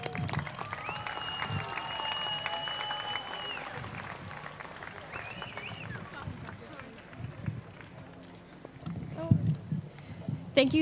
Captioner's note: applause